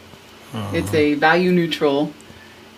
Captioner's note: grunts